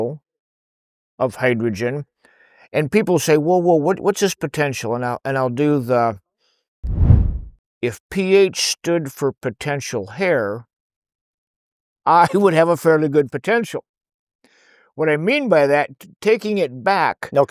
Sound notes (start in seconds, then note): 6.8 swoosh; 12.2 laughs